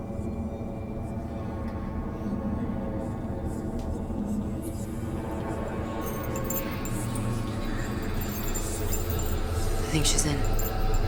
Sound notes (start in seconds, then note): 1.1 eerie whispering